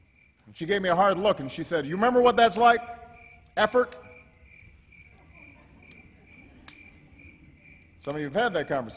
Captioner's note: laughter